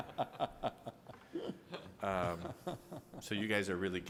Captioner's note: crowd laughing